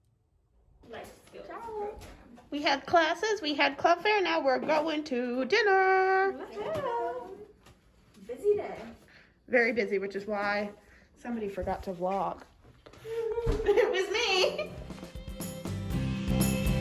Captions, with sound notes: -Hi! -We had classes, we had club fair, now we're going to dinner! -Woohoo! -Busy day! -Very busy, which is why somebody forgot to vlog. -(laughter) -It was me! (cheerful music)